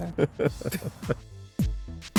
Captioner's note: both chuckle; upbeat music